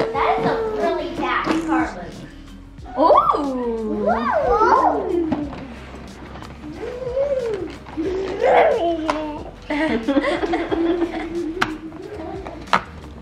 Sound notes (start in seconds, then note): 7.2 making car noises; 9.6 laughing